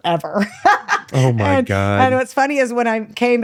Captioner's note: laughs